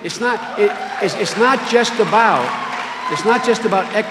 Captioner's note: cheering and applause